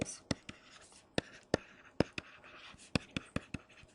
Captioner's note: stylus tapping